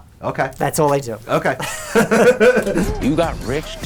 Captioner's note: laughs